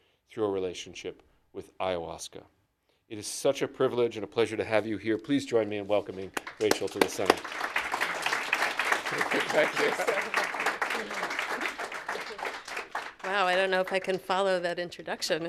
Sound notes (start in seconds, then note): 8.2 applause